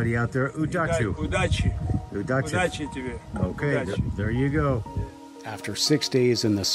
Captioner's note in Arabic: يتحدث بلغة أجنبية